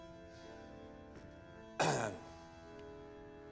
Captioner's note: clears throat